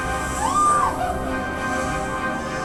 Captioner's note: screaming; snake hissing